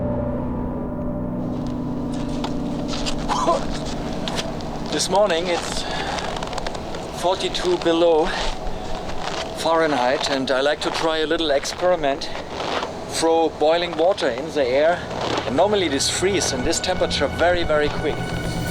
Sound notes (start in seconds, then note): 2.8 coughs; 18.5 twinkling music